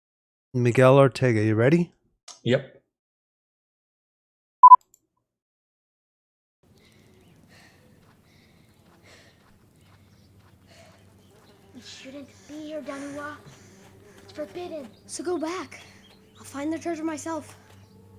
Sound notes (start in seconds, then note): 8.3 panting; 10.3 flies buzzing